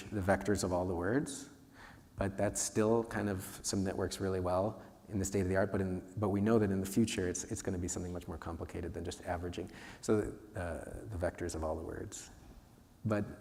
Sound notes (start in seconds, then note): none